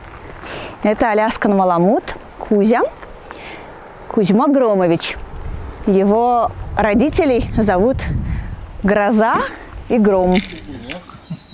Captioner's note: thunder